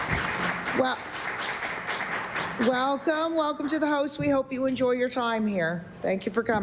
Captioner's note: applause